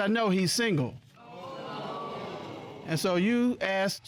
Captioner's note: audience exclaiming